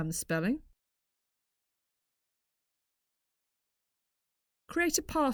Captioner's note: silence